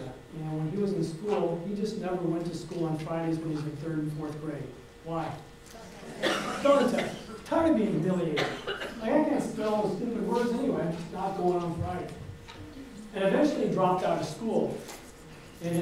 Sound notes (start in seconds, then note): 5.8 audience chatters; 6.1 coughing drowns out speaker